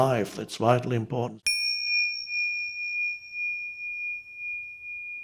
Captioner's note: bell dings